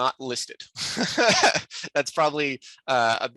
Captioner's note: chuckles